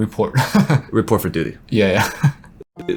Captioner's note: laughs